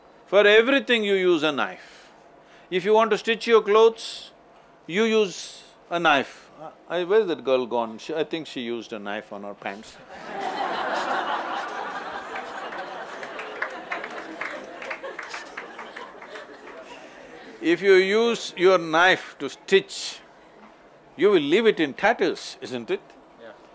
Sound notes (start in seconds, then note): 15.2 laughter